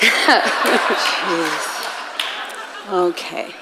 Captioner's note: audience laughing and clapping